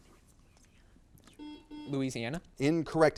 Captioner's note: buzzer beeps